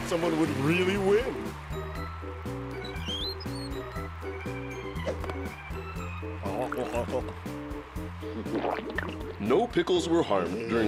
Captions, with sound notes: WHO WOULD HAVE THOUGHT SOMEONE WOULD REALLY WIN? (wheels squeaking) (gulping) NO PICKLES WERE HARMED DURING THE MAKING OF THIS SHOW.